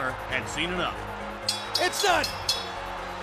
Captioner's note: bell rings